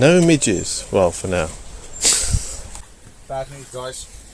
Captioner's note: laughter